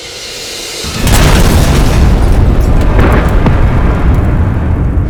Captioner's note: explosion